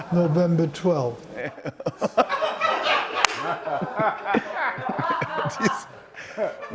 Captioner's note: laughter